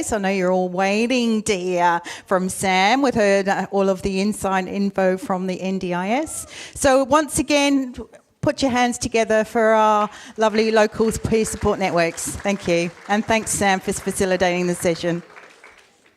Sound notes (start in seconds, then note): 12.4 audience applauds